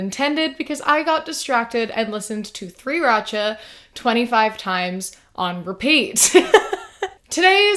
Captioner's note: laughs